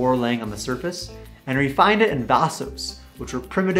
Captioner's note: spanish speaking